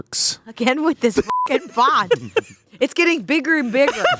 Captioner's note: laughs